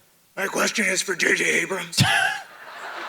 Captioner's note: maintaining scratchy voice; audience laughs; Hardwick laughs